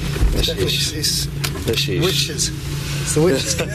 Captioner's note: chattering